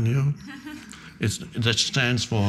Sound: audience laughing

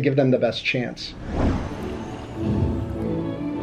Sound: screen whooshes; playful music

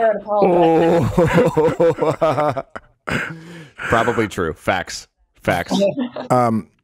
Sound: chuckles

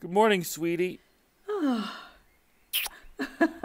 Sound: STUMBLELINA sighs, BEAUFUMBLES kisses her; laughing

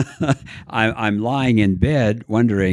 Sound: laughs

